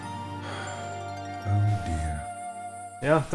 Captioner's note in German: seufz